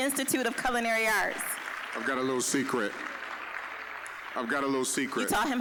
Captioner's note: applause